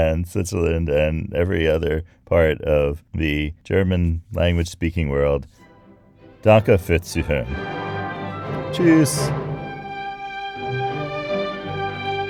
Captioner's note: speaking German